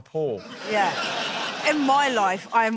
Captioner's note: laughter